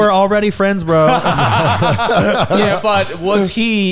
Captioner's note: all laughing